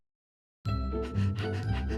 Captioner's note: panting